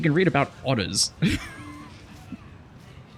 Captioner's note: laughs